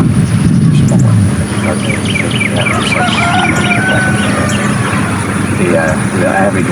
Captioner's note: birds chirping; cock crowing